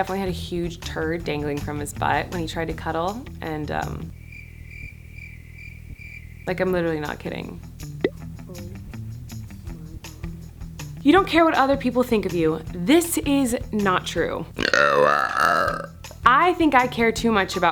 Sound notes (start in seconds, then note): 4.1 crickets chirping; 14.5 loudly belching